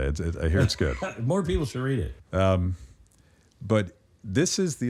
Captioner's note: laughs